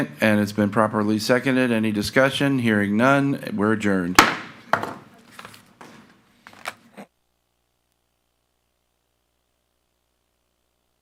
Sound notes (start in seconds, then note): 4.1 gavel thuds; 5.1 staff member speaking faintly